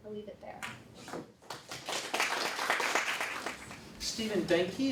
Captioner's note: applause